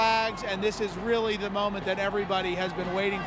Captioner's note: applause